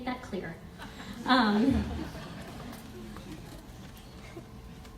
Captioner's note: audience laughs